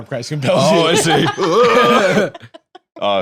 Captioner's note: laughs